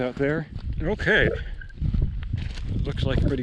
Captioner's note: footsteps thumping